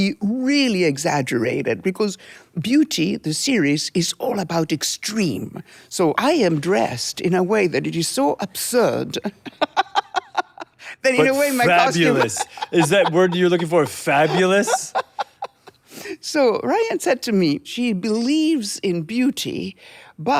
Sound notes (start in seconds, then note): 15.0 laughing